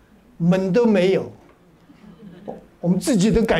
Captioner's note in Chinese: 哈哈哈